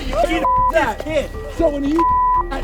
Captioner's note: beep